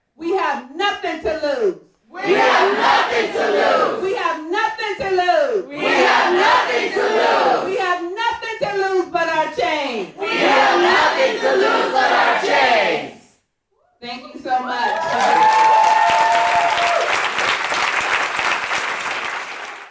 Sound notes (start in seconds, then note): 14.8 cheering and clapping